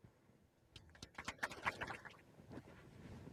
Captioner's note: applause